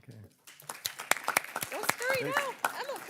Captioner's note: everyone claps